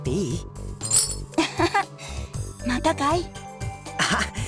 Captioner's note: laugh